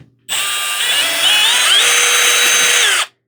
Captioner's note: drills nasally